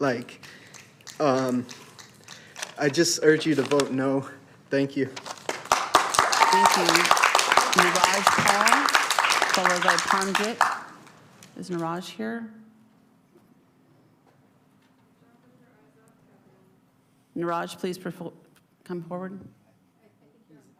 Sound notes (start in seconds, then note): 9.1 applause; 9.5 cheering/Applause